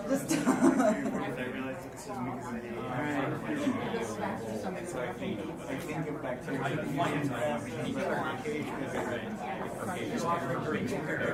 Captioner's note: many low-volume discussions occurring